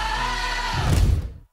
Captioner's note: stomp